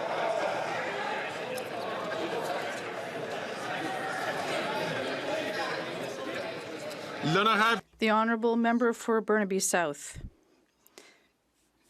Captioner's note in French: voix de l'interprète